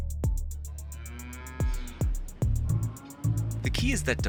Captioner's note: cow mooing